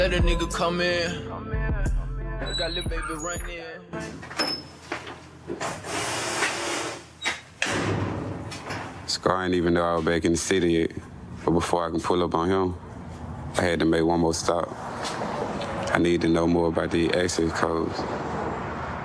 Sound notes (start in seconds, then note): 4.1 door creaking; 7.6 door slamming